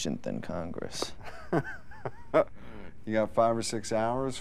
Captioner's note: laughs